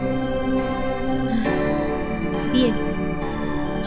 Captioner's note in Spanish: suspiro